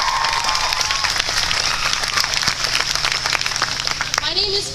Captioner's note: cheering